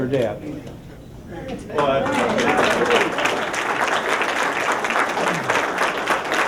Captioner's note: applause